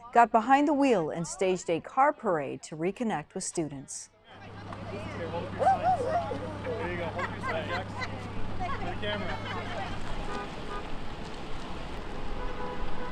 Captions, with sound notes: got behind the wheel and staged a car parade to reconnect with students. (people chattering) (laughing) (cars honking)